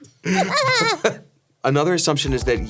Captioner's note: Ironmouse laughs